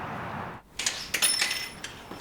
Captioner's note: bell chimes